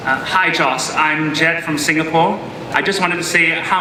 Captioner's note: voiceover